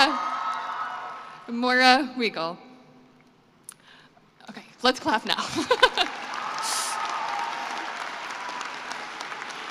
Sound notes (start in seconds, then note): 5.4 laughter; 5.7 cheering and applause